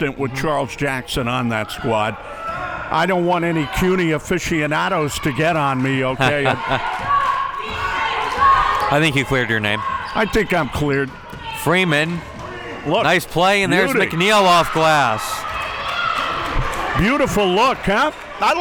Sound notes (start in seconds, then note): 6.2 laughs